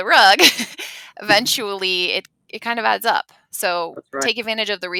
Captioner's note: laughs